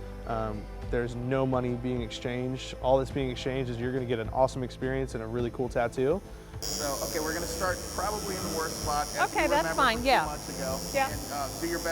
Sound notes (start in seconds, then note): 6.5 tattoo gun sound